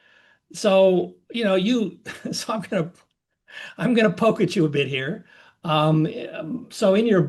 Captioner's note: laugh